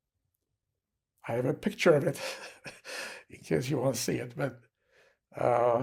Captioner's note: laughing